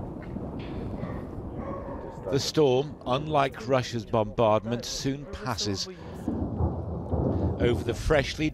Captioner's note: explosions